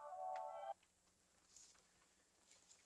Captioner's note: music stops